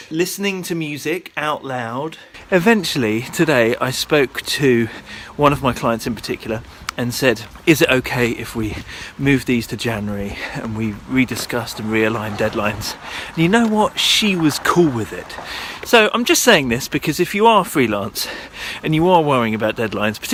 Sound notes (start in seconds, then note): none